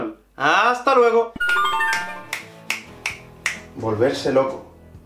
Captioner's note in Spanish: chasquea dedos